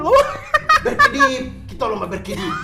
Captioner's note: laughing